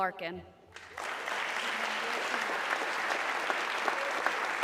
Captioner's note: audience clapping